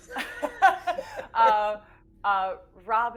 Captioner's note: group laughing